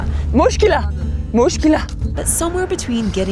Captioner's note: speaks in foreign language